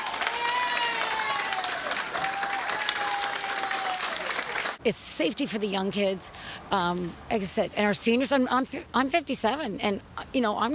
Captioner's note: applause